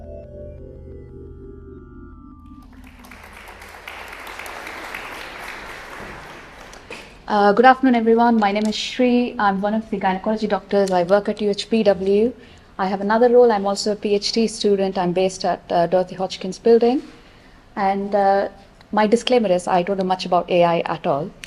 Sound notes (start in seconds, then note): 2.6 applause